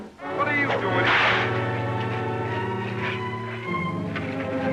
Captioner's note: cracking whip